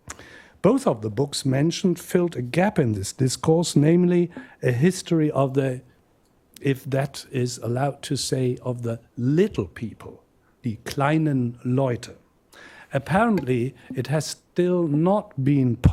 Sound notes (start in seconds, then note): 11.2 non-english